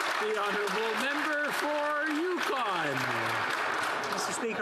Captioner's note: some Applause